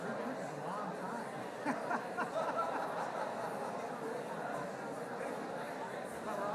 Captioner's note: laughing